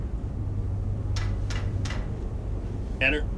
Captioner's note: knock knock knock